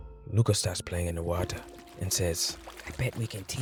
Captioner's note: water splashes